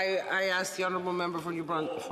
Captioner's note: mixed voices